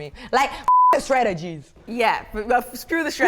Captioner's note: beep